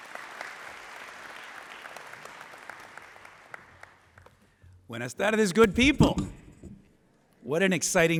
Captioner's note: applause; speaking spanish